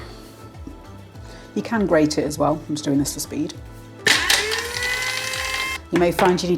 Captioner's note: coffee grinder whirring